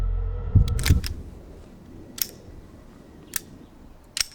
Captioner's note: gun reloads